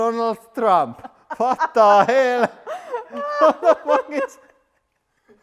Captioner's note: laughter